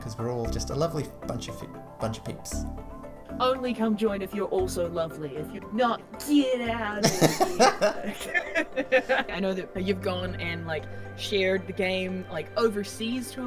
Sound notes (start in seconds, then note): 7.0 laughs